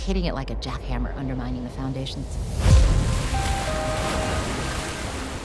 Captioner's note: wave crashing